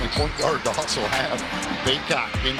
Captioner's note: chuckles